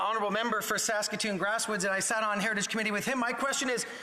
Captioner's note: speaking French